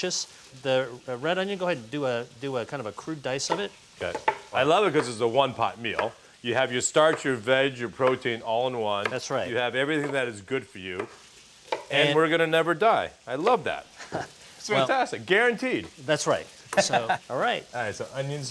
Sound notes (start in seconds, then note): 16.7 laughs